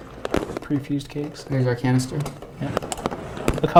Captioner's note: chuckles